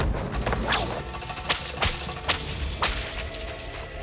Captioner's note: whisking